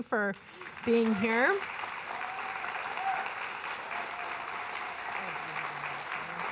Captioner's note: audience applauding and cheering